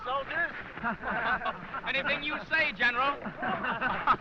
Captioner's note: laughing